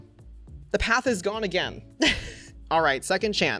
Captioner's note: chuckles